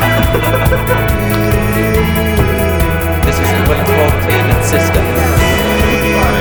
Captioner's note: people chattering; uplifting pop music